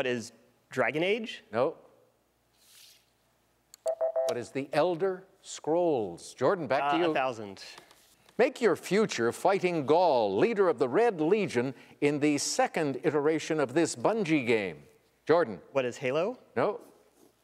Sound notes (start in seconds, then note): 3.8 electronic beeping